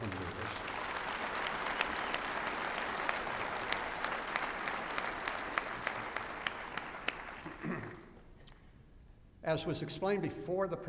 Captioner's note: applause